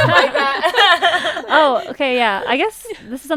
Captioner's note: laughs